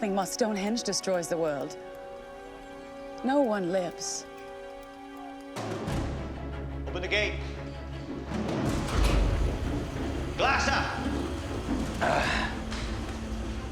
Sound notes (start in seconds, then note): 11.9 Jacob grunts